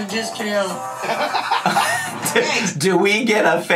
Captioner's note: everyone laughs